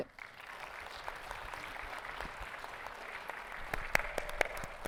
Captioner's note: audience applauding